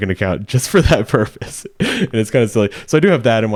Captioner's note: chuckling